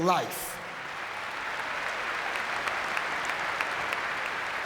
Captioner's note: audience clapping